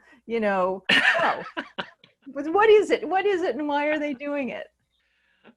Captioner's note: laughing